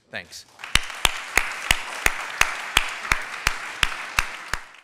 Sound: applause

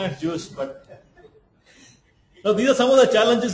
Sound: laughs

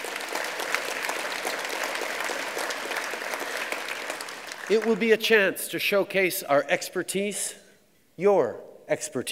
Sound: applause

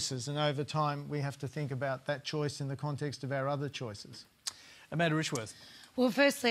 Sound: none

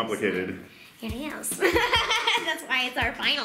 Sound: laughs

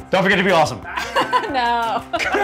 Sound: laughter

